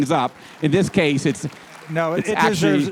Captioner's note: applause